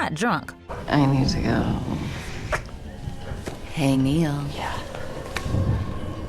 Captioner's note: slurring